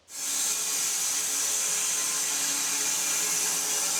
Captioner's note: saw whirring